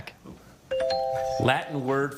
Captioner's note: bell chimes